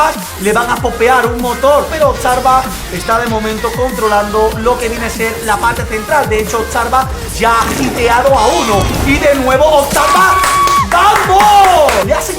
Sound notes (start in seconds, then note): 10.1 claps in Spanish